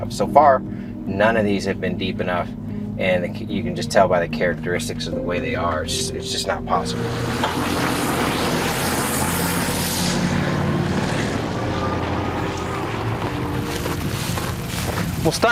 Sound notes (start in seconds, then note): 6.4 engine roars; 7.4 somber music; 13.7 insects chittering